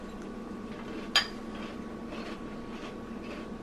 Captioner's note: chewing